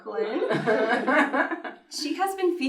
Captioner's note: laughs